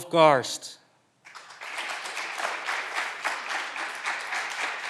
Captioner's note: clapping continues